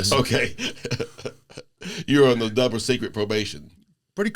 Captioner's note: laughter